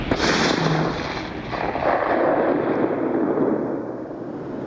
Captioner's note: sonic boom sound